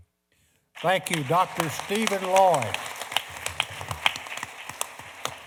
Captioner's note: applause